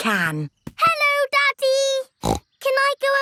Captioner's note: snorts